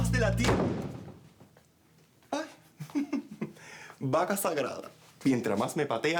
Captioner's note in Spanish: Portazo